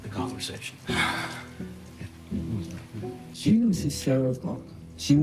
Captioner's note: sighs